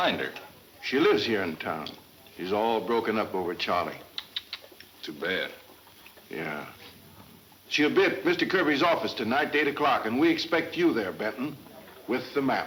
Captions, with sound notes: - She lives here in town. She's all broken up over Charlie. - (clicks tongue) Too bad. - Yeah. She'll be at Mr. Kirby's office tonight at eight o'clock and we expect you there, Benton, with the map.